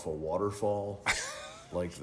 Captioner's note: laughing